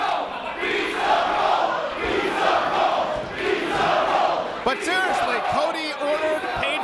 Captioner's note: applause